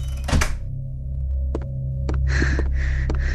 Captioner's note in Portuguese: Passos apressados de Dayane; Dayane ofegante